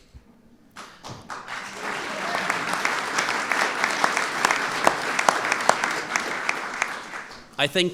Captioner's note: applause